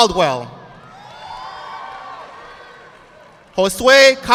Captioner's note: audience clapping